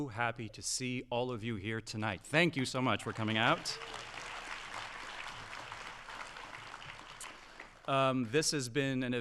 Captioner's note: audience applauding